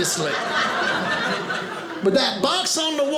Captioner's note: audience laughing